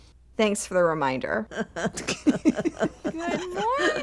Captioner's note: laughter